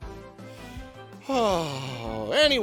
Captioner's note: sigh